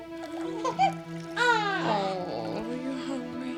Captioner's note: baby cries